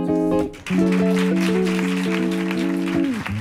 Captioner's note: applause